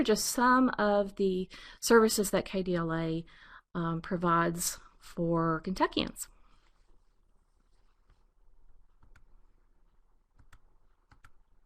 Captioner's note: pause